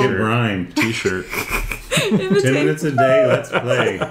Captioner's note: group laughter